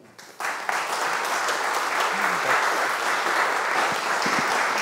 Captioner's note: audience applauds